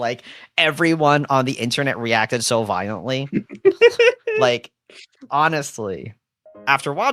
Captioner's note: laughs